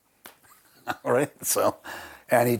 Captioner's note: laughing